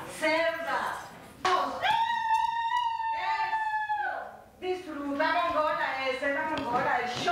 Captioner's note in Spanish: gritos de la hermana